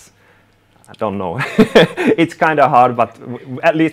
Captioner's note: laughing